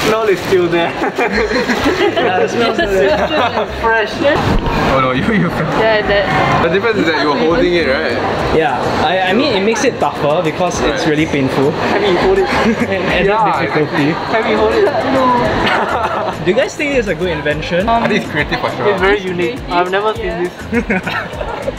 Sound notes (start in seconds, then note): 14.5 laughter from group